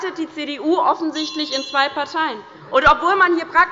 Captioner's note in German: Unruhe - Glocke des Präsidenten